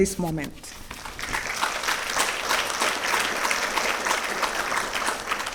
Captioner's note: audience clapping